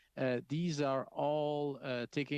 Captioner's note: speaking French